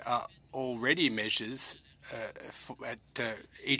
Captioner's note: speaking french